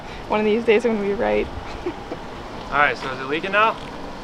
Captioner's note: chuckles